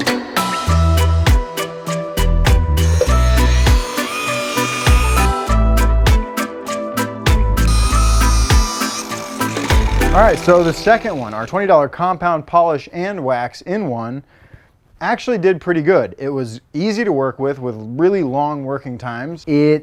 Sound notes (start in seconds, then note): 0.3 rhythmic island music; 2.7 buffer grinding; 5.7 rhythmic island music; 7.4 buffer grinding